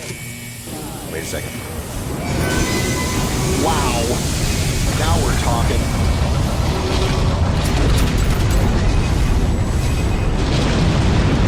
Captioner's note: rocket sounds